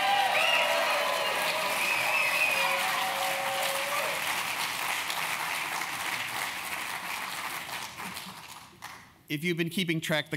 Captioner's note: applause